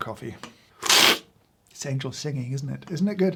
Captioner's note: slurping